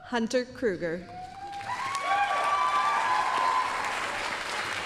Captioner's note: applause, cheering